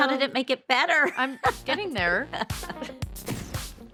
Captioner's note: laughs